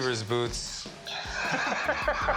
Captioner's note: laughter